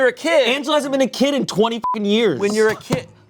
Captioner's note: beep